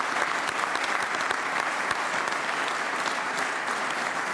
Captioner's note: applause